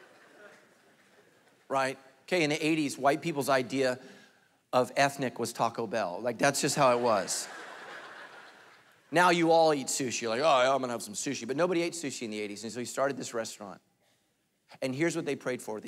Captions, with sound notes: Right, okay in 80s white people's idea of ethnic was Taco Bell, like that's just how it was. (congregation laughing) Now you all eat sushi, like, "Hi, I'm gonna have some sushi." But nobody ate sushi in the 80s. And so he started this restaurant and here's what they prayed for.